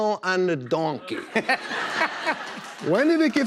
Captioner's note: laughter